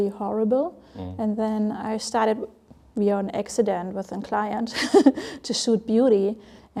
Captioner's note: laughs